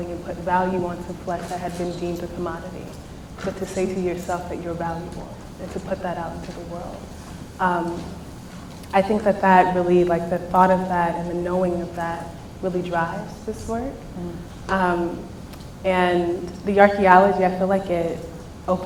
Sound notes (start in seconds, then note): none